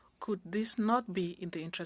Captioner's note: speaking French